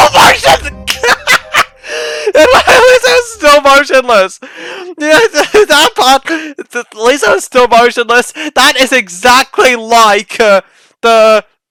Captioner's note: endless laughing